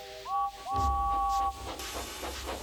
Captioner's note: toot toot